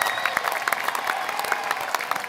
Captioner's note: applause